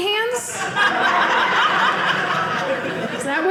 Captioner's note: audience laughing